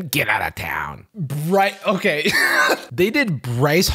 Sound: laughs

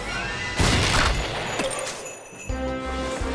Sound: loud crash

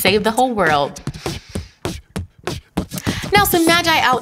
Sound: beatboxing transition

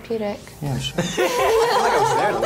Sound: others laugh

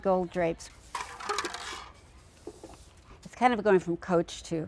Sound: sound of sweeping up popcorn

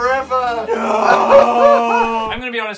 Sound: making crying noises in the background; sad music plays

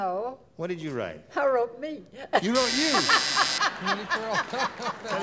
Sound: buzzer

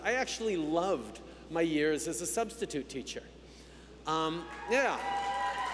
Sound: cheers

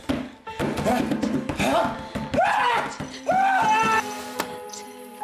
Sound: screams

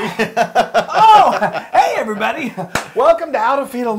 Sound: laugh

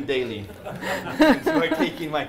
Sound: laughing

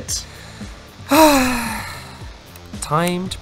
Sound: sigh

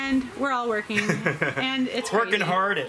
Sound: laughter

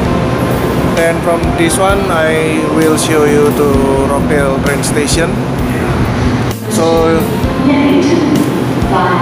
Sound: train

